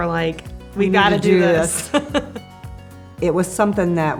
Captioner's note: both laugh